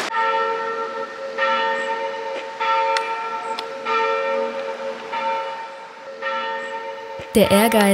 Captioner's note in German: Glockenläuten